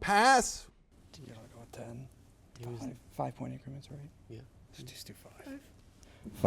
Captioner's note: team chattering